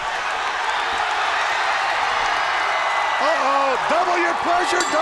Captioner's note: crowd cheering